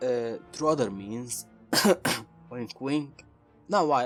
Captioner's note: cough